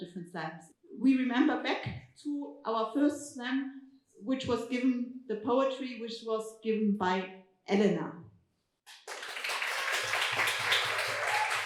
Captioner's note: applause